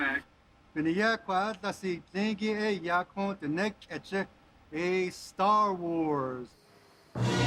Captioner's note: speaking Navajo